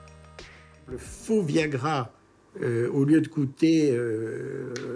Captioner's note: French spoken audio